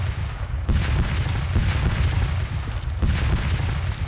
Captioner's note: cannon fire